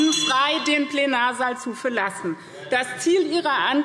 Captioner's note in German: Zurufe AfD - Unruhe - Glockenzeichen